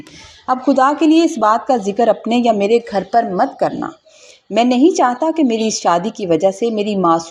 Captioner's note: snort